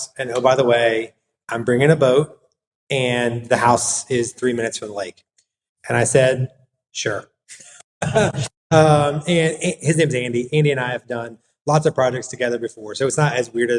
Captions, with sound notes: And oh, by the way, I’m bringing a boat and the house is three minutes from the lake.” And I said, “Sure.” [laugh] . And his name’s Andy. Andy and I have done lots of projects together before, so it’s not as weird